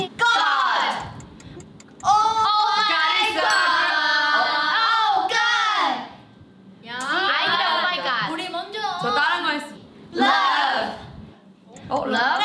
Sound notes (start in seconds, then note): 0.9 timer ticking; 3.4 bell rings; 6.8 speaking in Korean; 11.1 timer ticking